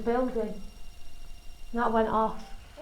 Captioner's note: beeping